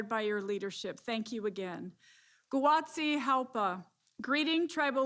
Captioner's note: foreign language